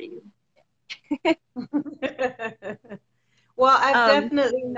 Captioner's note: both laughing